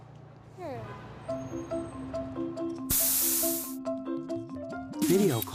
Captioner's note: light music; pneumatic hissing